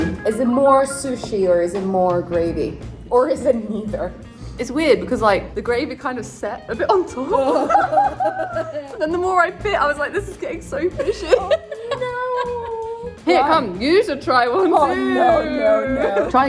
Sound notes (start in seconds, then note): 7.0 laughs; 7.5 groans; 11.0 laughs